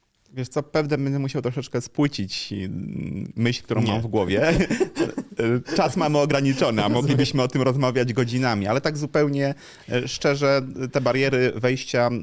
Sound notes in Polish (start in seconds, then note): 4.4 śmiech